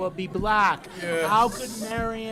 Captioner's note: laughter